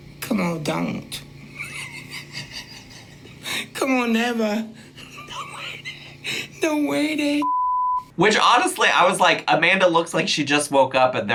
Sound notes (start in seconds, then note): 1.4 laughs; 7.4 beep